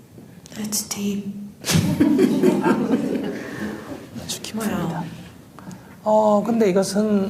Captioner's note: audience Laughter